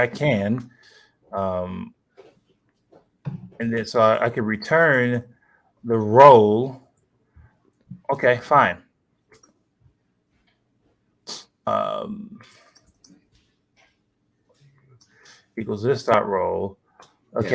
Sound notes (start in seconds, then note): none